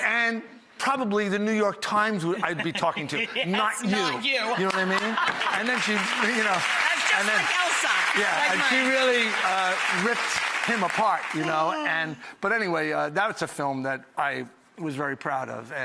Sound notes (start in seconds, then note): 4.4 audience laughs; 6.4 audience claps